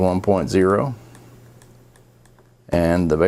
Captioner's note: mouse clicking